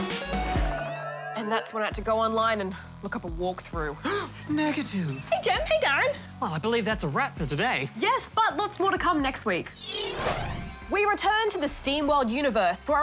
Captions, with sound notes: And that's when I had to go online and look up a walk-through. (GASPS) Negative! Hey, Gem. Hey, DARREN. Well, I believe that's a wrap for today. Yes, but lots more to come next week. We return to the SteamWorld universe